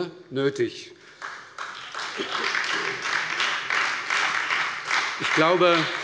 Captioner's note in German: Beifall bei der SPD, der FDP und der LINKEN